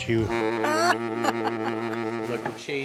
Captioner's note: laughs